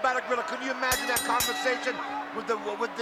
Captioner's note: bell ringing